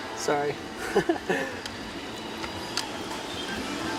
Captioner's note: laughs